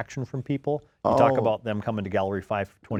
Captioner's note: groans